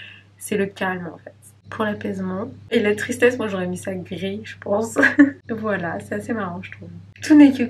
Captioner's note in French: rires